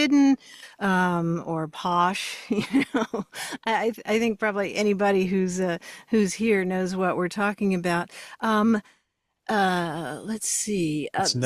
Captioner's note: laughs